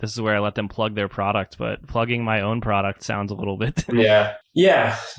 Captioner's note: laughs